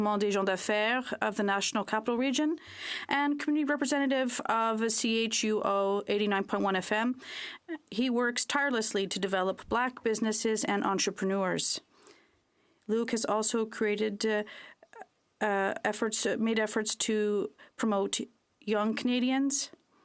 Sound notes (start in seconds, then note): 6.9 speaking French